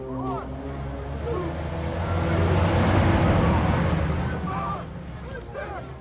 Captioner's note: truck rumbling